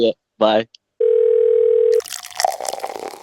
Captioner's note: phone ringing; liquid pouring